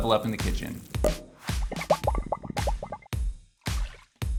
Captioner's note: champagne bubbling; cork pops; upbeat music